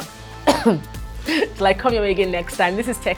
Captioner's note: coughs